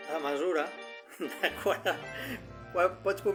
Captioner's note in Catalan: Riu